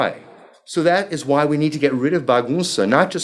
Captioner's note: speaking foreign language